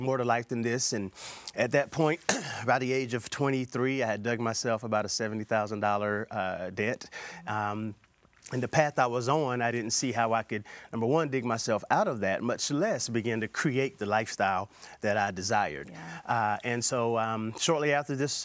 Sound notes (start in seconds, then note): 2.2 clears throat